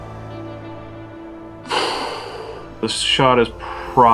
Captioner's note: tense electronic music; loud exhale